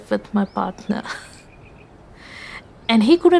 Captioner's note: chuckles